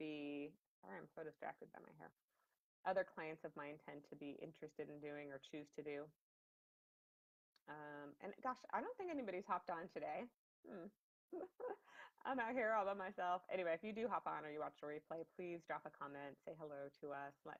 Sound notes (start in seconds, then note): 11.4 laughs